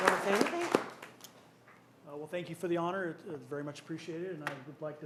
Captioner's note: applause